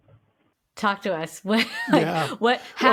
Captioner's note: laughs